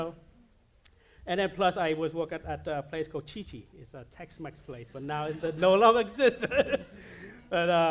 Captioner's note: laughs